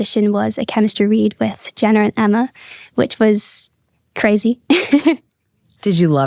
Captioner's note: laughs